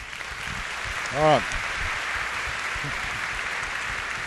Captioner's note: applause